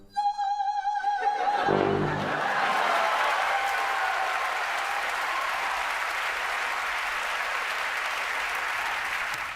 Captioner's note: cheers and applause